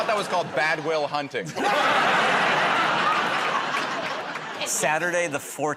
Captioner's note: laughter